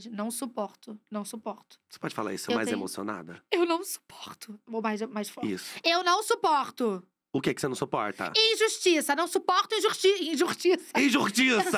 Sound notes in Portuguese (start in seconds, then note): 2.5 finge choro; 6.4 grita